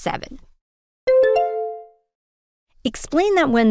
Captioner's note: bell ding